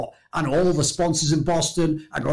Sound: none

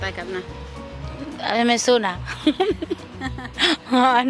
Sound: laughs

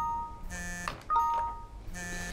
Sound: error sound

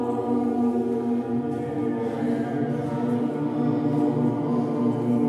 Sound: voices resonating continues

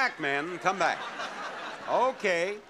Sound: audience laughing

